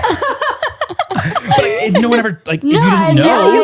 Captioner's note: laughs